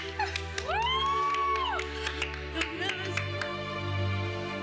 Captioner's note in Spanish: exclamaciones